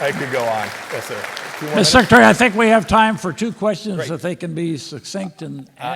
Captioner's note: applause